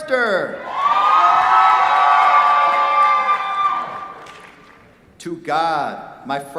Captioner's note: cheers, applause